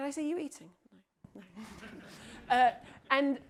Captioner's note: audience member laughs